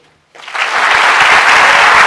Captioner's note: applause